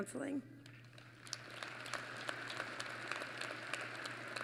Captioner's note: applause